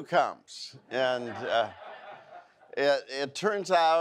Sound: audience laughs

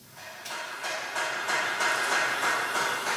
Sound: hammering, background

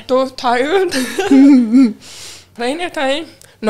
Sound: laughs

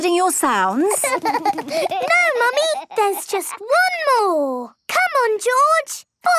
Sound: laughter

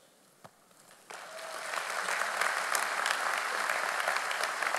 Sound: audience applauds

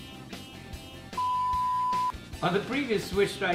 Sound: beep

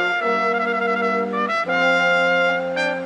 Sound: none

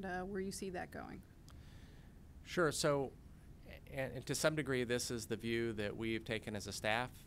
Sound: executive Director speaking

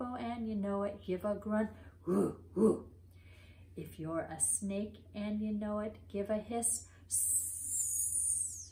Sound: grunt sounds

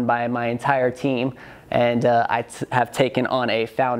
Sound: none

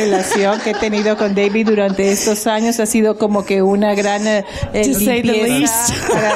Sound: laughter

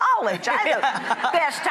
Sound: audience laughter

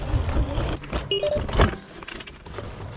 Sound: beeps; gear clicks

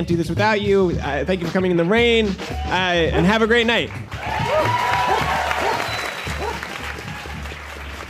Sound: applause

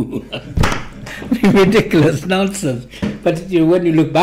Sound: laughs

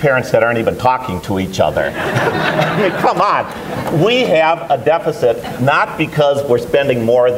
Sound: audience laughs

